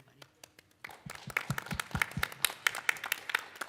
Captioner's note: applauding